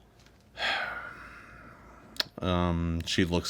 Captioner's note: Degrelle sighs